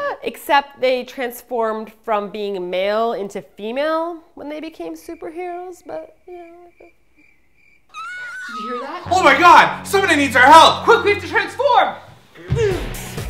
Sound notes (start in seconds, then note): 6.0 crickets chirping; 7.9 little Kid crying out